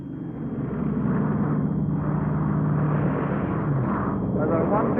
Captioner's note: plane engines roaring